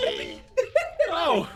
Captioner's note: tiny Laugh